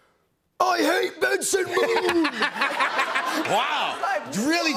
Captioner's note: laughter